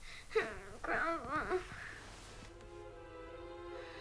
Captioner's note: crying